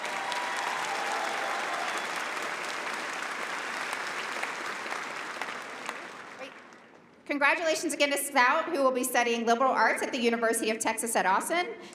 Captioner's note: applause